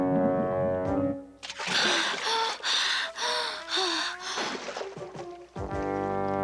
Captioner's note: gasping for air